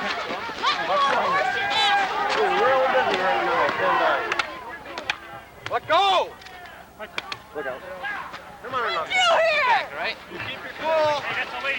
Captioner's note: lots of people yelling